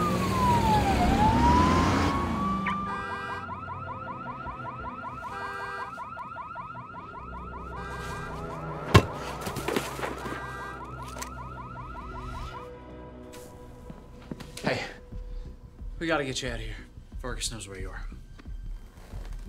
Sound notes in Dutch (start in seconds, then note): 2.3 auto alarm piept